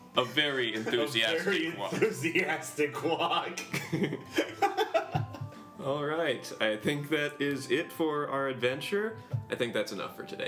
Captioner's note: laughing